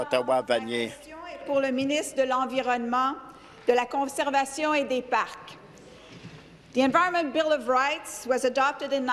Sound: speaking in French

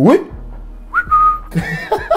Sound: whistle; laughter

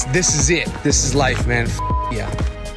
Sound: beep

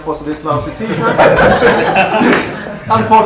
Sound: laughter

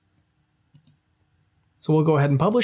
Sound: mouse clicks

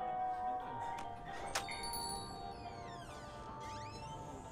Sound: door opens, bells jingle

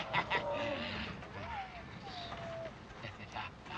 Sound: muffled crying; laughs

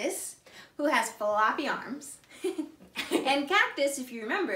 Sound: both laugh

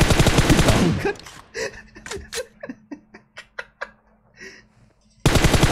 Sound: chuckles

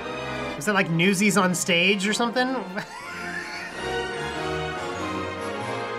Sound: laughs

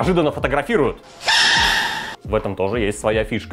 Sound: Panda screaming

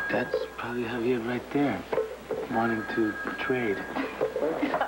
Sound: telephone rings

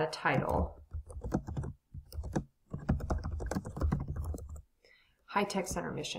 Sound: typing

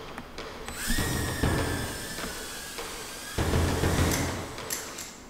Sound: drone buzzes; heavy drum music

